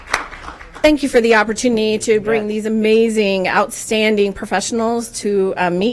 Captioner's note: applause